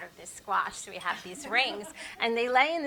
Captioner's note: chuckle